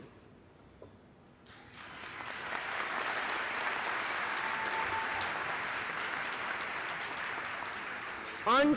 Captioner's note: applause